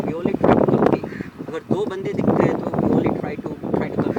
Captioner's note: hindi